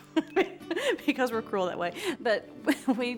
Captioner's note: laughing